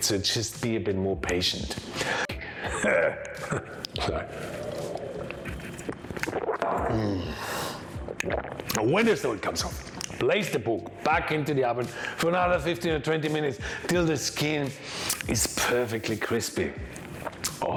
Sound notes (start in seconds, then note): 2.4 laughs; 3.2 slurps